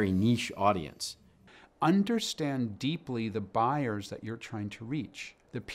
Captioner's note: voiceover